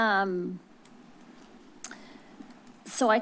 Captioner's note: clicks tongue